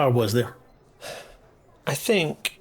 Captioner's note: sighs